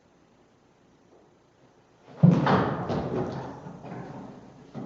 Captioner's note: thud